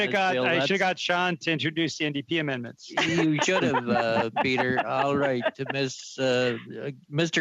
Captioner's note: laughter